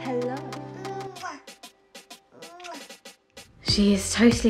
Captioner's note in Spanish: sonido de besos